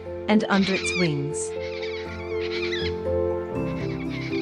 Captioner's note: bird sounds